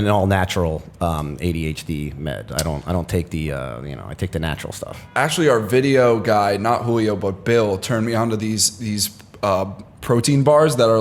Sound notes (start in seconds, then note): none